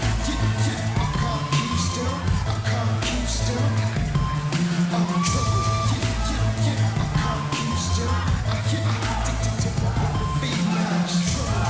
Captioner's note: crowd cheering